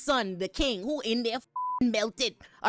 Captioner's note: beep